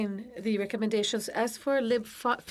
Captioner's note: speaking FRENCH